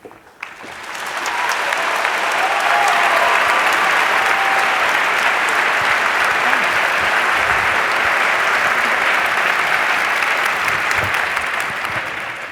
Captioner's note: applause